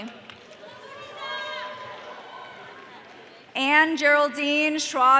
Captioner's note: audience cheering